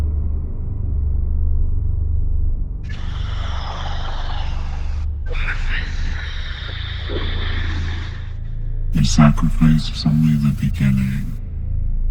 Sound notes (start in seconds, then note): 3.2 low-pitched growling